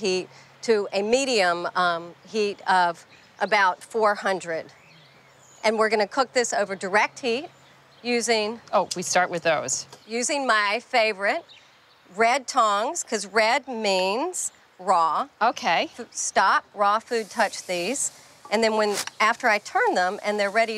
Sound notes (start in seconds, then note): none